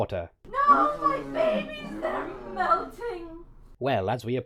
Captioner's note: Drake in the distance, over dragon sounds